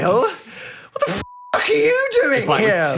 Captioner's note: beep